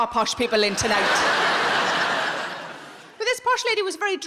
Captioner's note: audience laughing